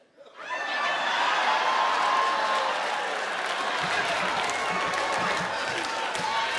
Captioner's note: audience laughing; audience applauding